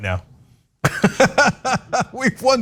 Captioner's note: laugh